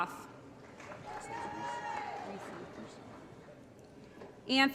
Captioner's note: applause & Cheering